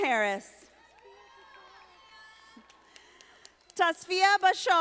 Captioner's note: audience applauding